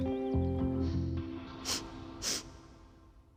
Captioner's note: sniffing